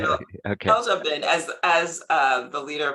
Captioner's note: laughing